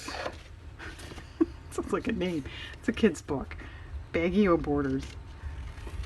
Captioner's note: laughs